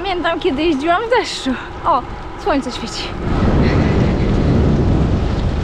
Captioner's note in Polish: grzmi burza